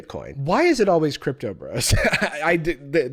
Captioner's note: laughs